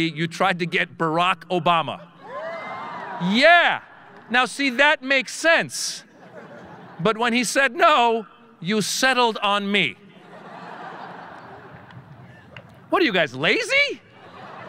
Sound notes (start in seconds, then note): 2.2 audience cheering; 10.1 audience laughing